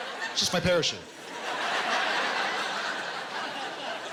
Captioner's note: laughter